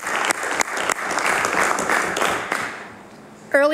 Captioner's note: applause